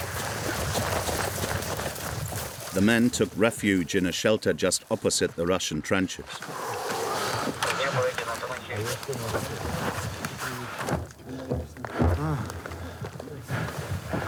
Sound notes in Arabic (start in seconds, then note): 7.9 الصوت المنطوق الأوكراني